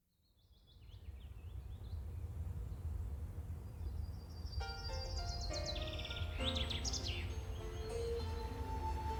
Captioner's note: birds chirping